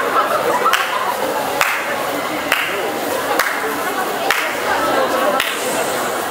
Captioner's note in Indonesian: suara tepukan tangan pendemo